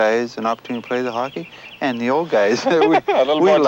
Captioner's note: both chuckling